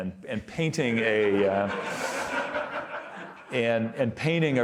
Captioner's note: audience laughing